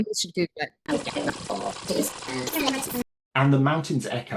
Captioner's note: VHS fast forwarding noises and sped up squeaky voices